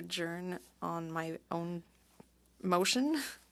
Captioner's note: speaking French